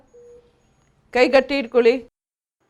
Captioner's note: speaking in Kannada; speaking in Kannada